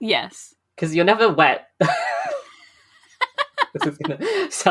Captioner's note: laughs